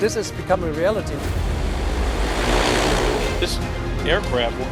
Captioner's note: engine roaring